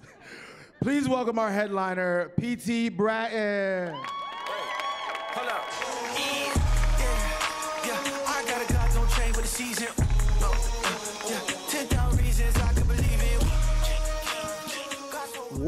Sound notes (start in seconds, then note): 3.8 cheering; 4.6 hip hop music